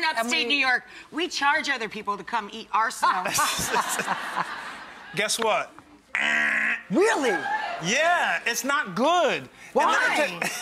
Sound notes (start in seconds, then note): 3.3 crowd laughs; 5.6 buzzing noise; 7.2 crowd laughs